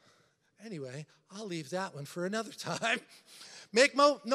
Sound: laughs

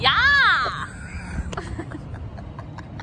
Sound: laughing

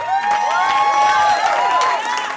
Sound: cheering

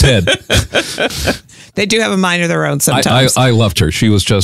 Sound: laughs

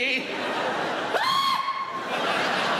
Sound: screams; laughter

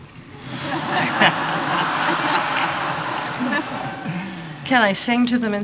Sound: laughter

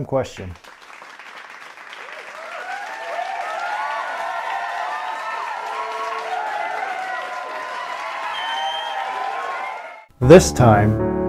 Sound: cheering and clapping

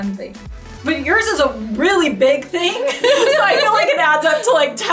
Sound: laughs

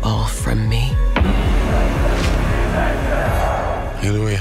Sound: chanting

